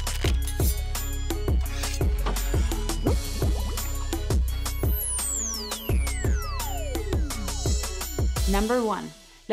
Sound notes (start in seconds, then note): 0.4 intense hip hop music; 2.0 bubbling